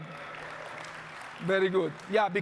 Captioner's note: audience clapping